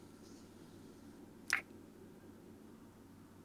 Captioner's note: kiss